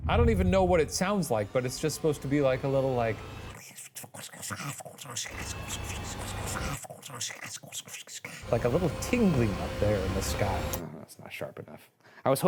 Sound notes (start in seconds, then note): 3.6 tongue shuffling; 3.6 eerie music escalates